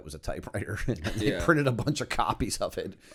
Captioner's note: chuckle